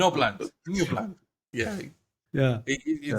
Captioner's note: laugh